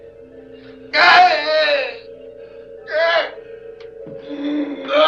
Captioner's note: screaming